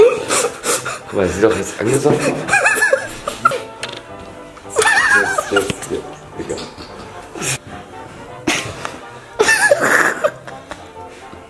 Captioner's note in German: Gelächter